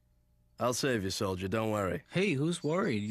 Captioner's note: whispering